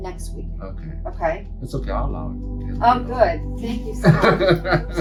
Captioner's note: laughs